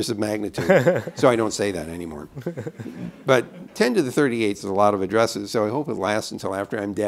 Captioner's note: laughter